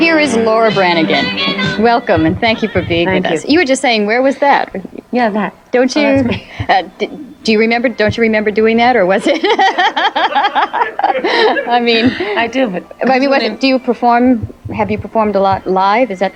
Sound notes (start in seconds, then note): 11.1 laughing